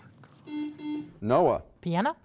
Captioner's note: buzzer